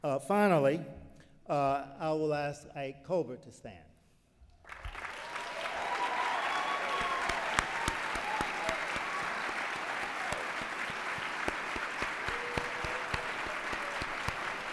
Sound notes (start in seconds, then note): 4.4 applause